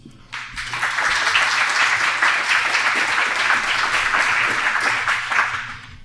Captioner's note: applause